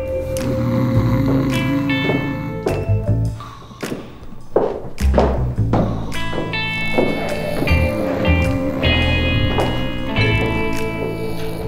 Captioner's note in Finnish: kuorsausta ja korinaa